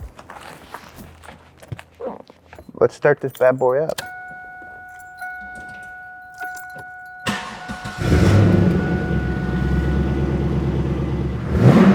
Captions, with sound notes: Let's start this bad boy up. (dinging) (engine revs)